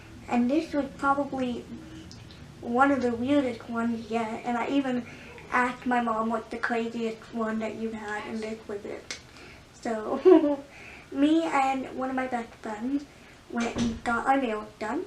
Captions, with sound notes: And this is probably one of the weirdest ones yet, and I even asked my mom "What is the craziest one you've had?" And this was it...so...*laughs awkwardly* Me and one of my best friends went and got our nails done.